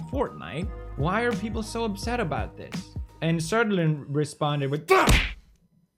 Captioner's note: punch